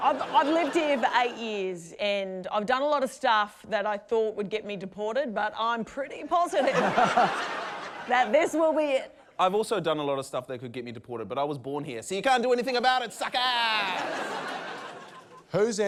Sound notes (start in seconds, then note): 6.5 laughter; 13.6 laughter